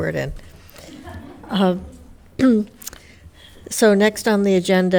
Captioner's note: audience laughing